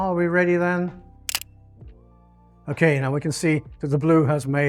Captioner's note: camera clicks